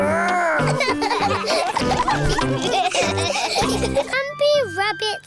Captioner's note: all laughing